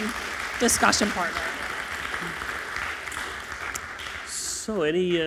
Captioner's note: crowd clapping